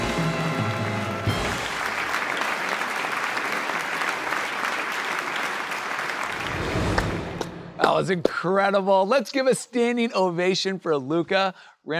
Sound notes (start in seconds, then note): 2.3 audience applauding